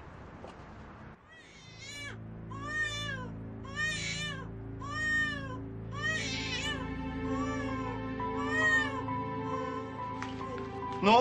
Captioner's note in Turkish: Bebek ağlaması